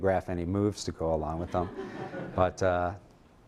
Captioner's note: laughter